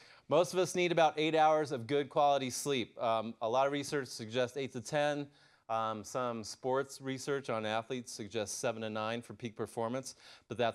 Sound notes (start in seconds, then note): none